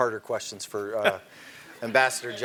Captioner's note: laugh